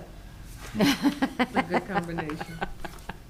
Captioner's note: speakers laughing